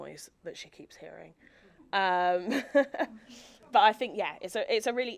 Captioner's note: chuckles